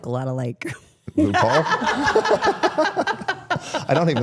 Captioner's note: everyone laughing